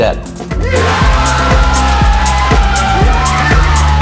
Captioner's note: screaming